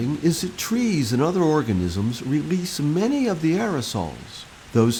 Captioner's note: waves lapping